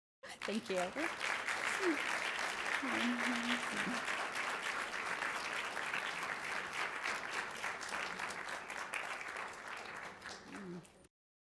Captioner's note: applause